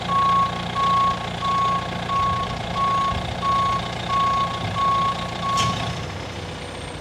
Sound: beeping

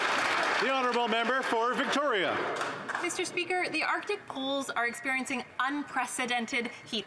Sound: some Applause

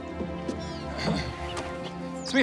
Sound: clears throat

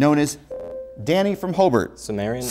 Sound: buzzer

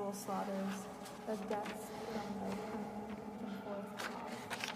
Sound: voice fades

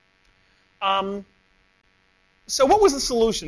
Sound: pause

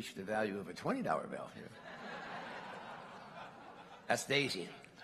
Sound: laughter

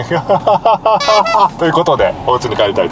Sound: laughs

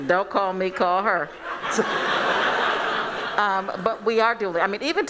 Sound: laughing

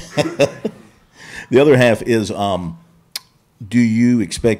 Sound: chuckles

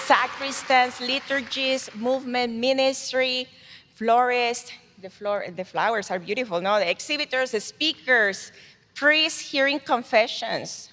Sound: cheers and applause

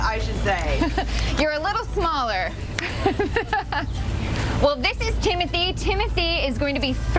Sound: laughter

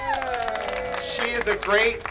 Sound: applause

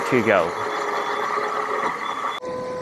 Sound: machine hums

